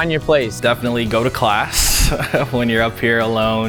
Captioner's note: laughs